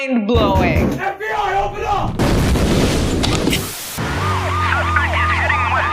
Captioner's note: explosion blares; siren blares